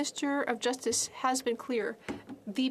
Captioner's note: speaking French